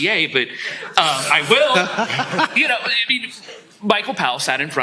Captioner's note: laughter